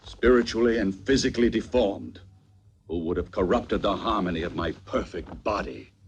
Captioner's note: none